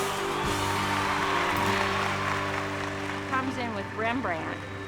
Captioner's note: cheers and applause